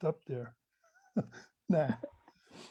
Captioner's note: laughs